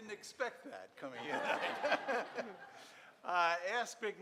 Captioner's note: audience laughing